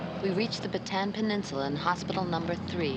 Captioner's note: Maggie Voiceover